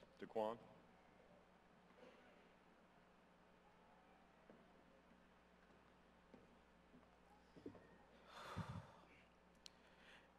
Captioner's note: silence